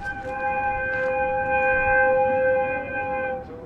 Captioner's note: whistles